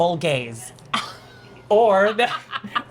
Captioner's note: laughing